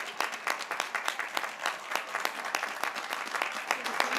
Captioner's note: graduates cheering